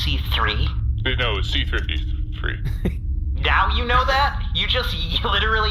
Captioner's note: quietly